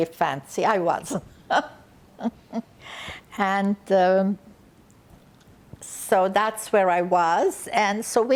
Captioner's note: laughing